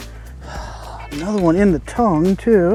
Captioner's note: fisherman sighs